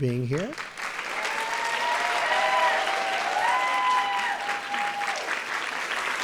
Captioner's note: applause